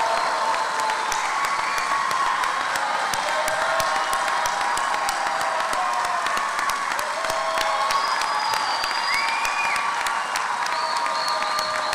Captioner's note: cheering and applause